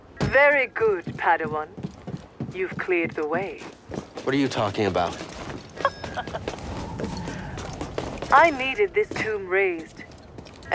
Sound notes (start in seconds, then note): 5.8 laugh